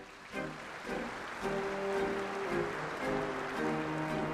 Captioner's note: applause